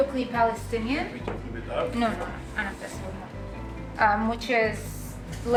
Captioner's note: speaking Arabic